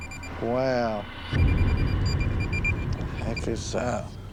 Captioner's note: beeping